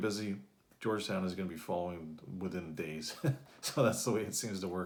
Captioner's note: laughs